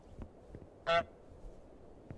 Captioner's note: honk